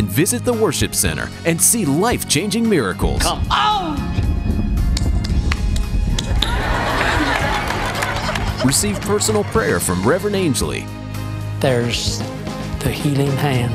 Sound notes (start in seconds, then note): 4.9 hands clapping; 6.3 laughter